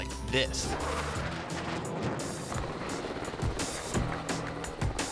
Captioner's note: plane whooshing